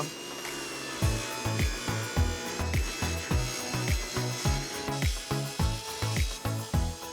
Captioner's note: machine screeching; upbeat music